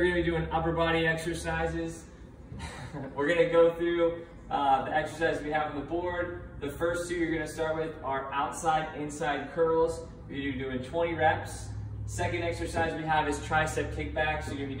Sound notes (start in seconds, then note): 2.5 laughs